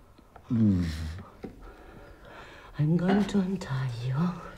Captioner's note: Tony moans